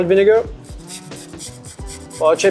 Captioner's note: spritzer hissing